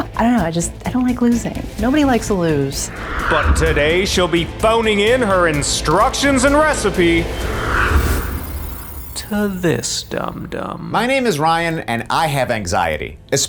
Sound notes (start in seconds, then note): 6.1 screen whooshes; 7.5 brooding music continues